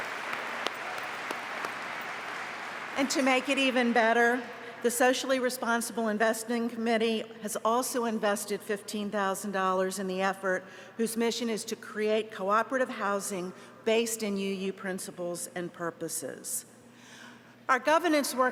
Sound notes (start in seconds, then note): 5.4 applause